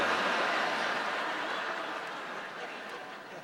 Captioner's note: laughter